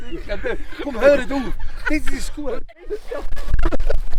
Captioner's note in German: alle lachen